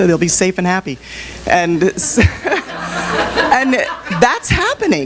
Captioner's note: audience laugh